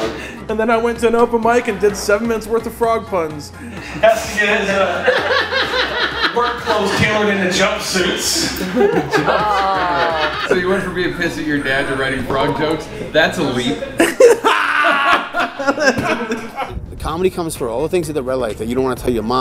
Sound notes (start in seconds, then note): 4.9 laughter; 9.2 laughter; 13.6 laughing